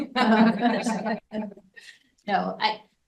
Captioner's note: group laughing